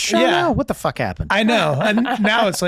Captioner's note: chuckling